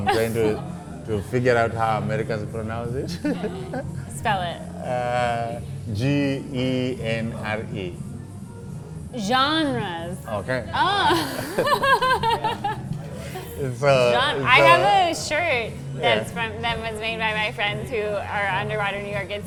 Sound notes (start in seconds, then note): 10.7 laughing